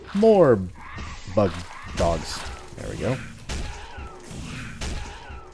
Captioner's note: continued whacking; whack